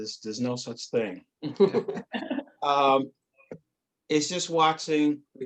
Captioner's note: laughing